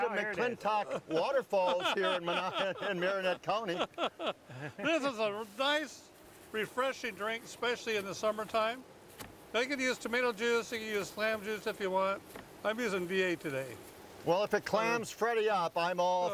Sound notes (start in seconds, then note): 0.1 laughing